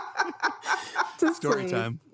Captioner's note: everyone laughs